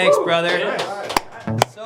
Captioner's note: applause